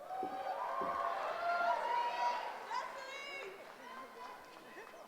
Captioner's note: cheering